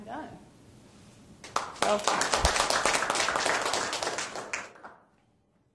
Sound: audience applauding

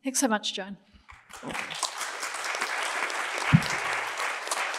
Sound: applause

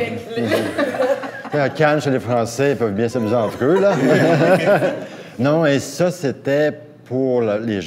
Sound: laughs

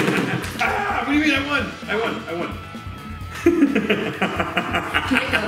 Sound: laughs; laughs

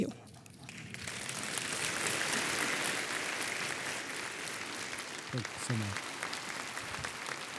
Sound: congregation applauding

